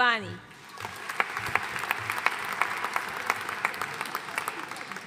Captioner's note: audience applauding